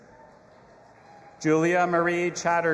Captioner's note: audience applauding and cheering